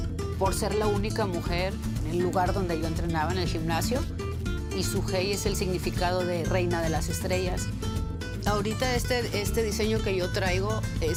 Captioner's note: speaking spanish